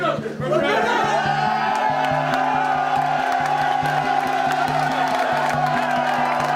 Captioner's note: cheers